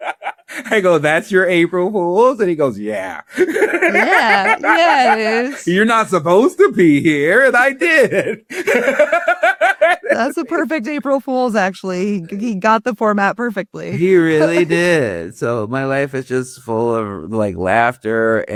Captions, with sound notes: I go, "That's your April Fools?" And he goes, "Yeah." - Yeah, yeah, it is. - "You're not supposed to pee here and I did," [laughs]. - That's the perfect April Fools actually. He got the format perfectly. - He really did. So my life is just full of like laughter